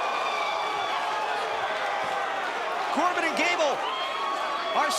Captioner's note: crowd cheering